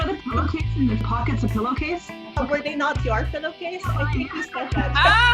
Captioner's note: laughing